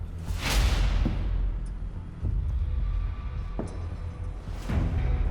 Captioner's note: slow footsteps approach